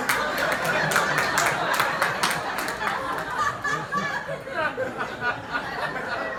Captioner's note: laughter